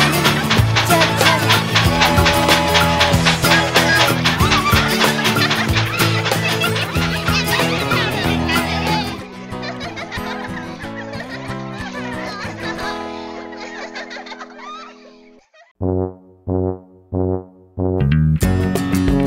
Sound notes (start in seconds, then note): 1.7 train whistle blowing; 6.9 playful giggling